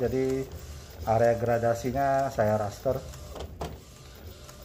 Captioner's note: printer machine sound